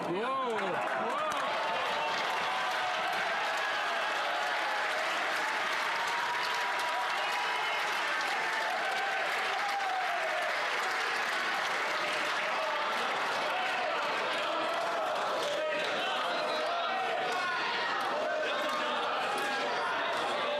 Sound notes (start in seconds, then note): 4.1 some Applause